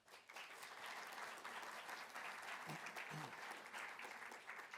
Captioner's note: audience applauding